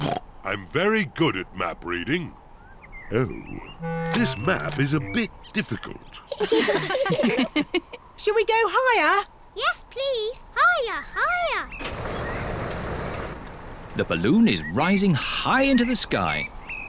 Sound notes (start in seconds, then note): 0.1 oinks; 6.2 all laughing